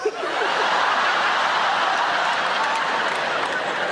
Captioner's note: audience laughs